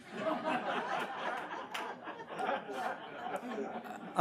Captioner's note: audience laughs